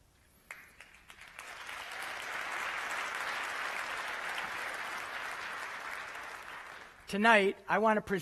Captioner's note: applause